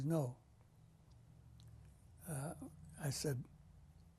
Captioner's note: pauses for 3 seconds